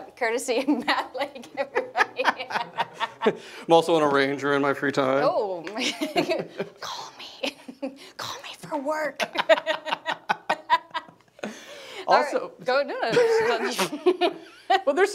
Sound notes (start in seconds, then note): 1.0 laughing; 5.7 laughs; 7.4 whispers; 9.5 laughing